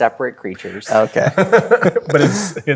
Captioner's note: laughing